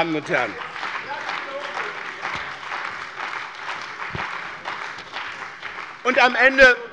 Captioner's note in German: Beifall bei dem BÜNDNIS 90/DIE GRÜNEN und der CDU